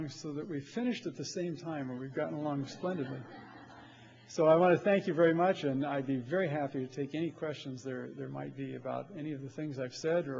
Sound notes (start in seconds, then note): 2.4 laughter